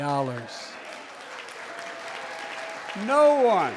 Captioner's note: applause